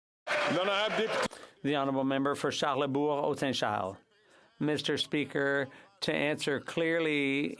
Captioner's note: some Applause